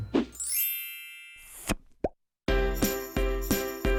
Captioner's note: chimes ringing; upbeat cheerful music